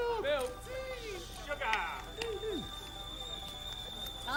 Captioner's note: tea kettle whistling